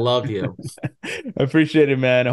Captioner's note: laughs